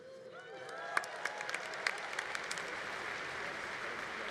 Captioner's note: congregation applauding